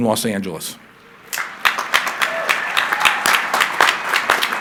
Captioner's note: crowd applauding